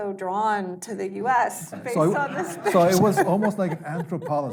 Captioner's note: laughing